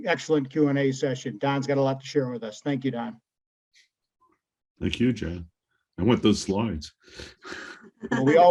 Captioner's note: laugh